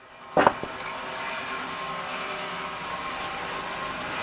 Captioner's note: saw whirs